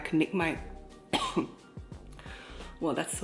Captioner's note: coughs in korean